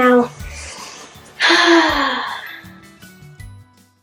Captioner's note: relaxed sigh